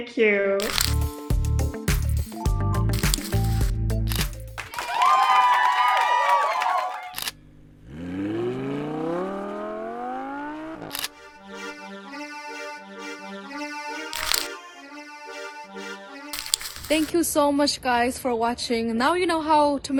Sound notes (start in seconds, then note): 0.6 upbeat music; 4.2 group applauding; 7.7 car engine revving; 11.1 lively music